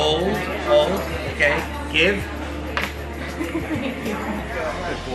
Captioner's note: employee laughs